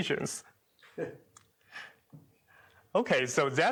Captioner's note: chuckles